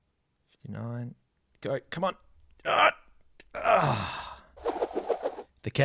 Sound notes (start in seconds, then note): 3.6 sigh; 4.6 straining